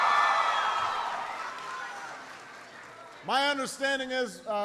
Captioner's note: applause